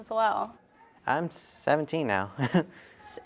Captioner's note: laughs